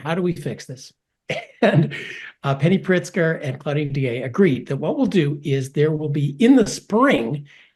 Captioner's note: laugh